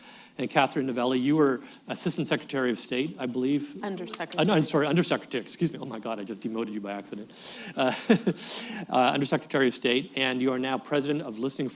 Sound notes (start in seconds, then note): 7.8 laughs